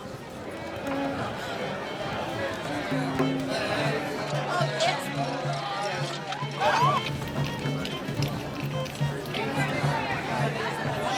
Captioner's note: people murmuring